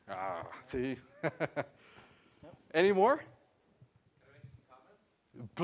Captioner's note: laugh